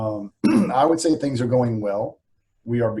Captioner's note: clears throat